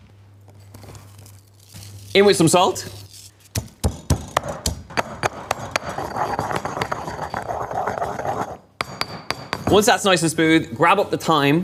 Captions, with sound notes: In with some salt. (banging) Once that's nice and smooth, grab up the thyme